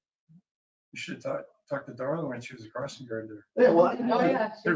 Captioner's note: murmuring